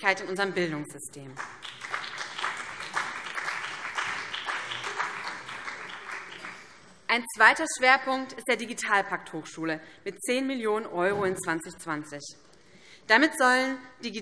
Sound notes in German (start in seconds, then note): 1.2 Beifall BÜNDNIS 90/DIE GRÜNEN und vereinzelt CDU